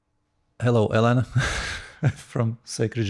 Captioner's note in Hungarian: nevetés